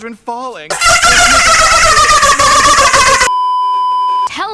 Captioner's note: extreme dolphin laughing